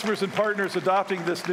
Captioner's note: applause